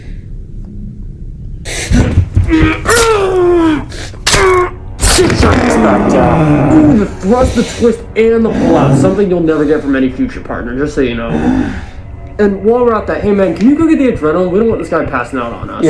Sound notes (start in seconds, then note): 2.4 groaning in pain; 5.0 stab; 5.4 groaning in pain